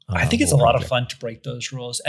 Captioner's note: speaks softly